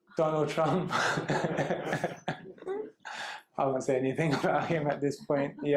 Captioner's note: laughter